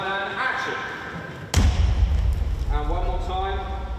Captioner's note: thud